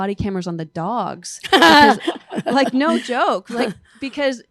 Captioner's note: laughter